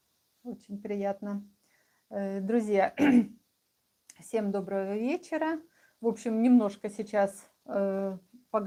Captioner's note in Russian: откашливается